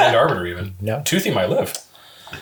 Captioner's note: all laugh